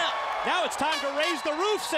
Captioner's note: crowd cheering